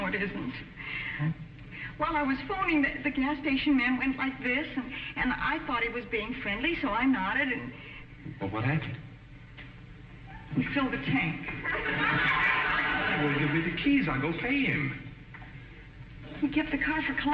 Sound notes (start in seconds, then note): 11.5 audience laughing